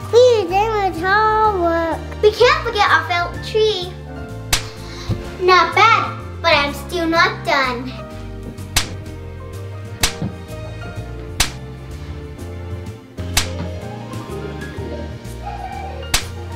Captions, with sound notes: Whew, that was hard work. - We can't forget our felt tree. (felt tree thwacking) Not bad, but I'm still not done. (jazzy festive music) (ornaments thwacking)